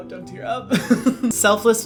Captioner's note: laughs